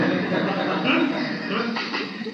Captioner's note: laughter